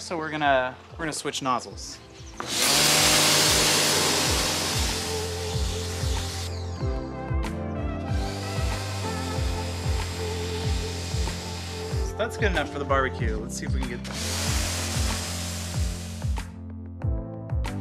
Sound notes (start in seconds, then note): 2.4 power washer whirring; 6.0 light music; 14.5 light music